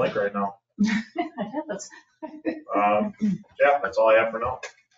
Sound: chuckles

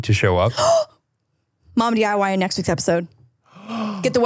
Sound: gasps; gasping

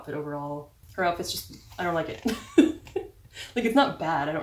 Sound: laugh

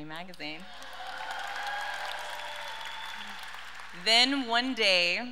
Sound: audience cheers and applauds

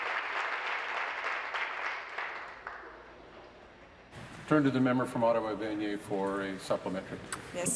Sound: applause

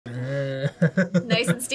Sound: laughs

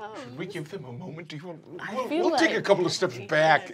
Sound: stammers

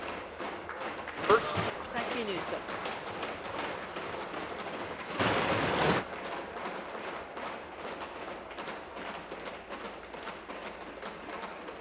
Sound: tapping of desks

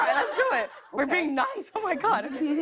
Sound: laughter

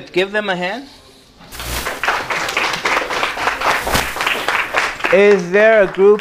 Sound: clapping

